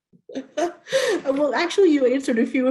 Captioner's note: laughs